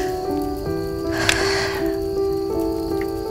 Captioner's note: Sighs